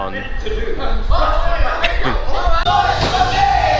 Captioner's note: laughs; man cheers